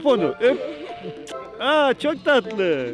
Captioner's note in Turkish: öpücük sesi